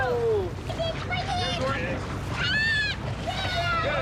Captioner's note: screams; cheering